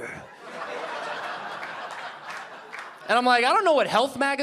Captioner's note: audience laughing